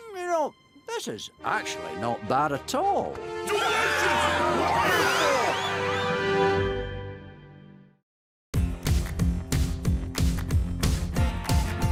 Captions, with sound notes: Mm, you know, this is actually not bad at all. -[mummies cheering] -Delicious bo-rrito!